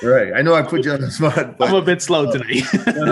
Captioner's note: laughing